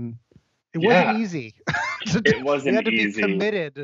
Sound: laughs

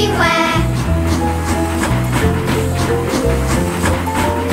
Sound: chugging

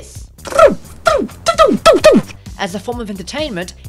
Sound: Dobby Club noises

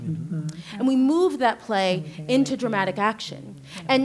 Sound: whispering continues

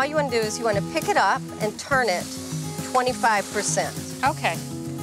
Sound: chicken sizzling

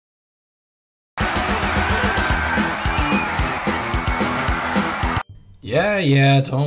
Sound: demon bathroom noises

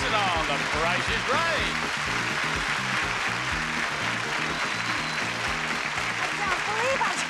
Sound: audience cheering; upbeat theme music

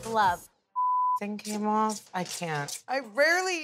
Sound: beep

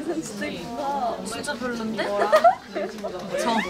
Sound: laughing

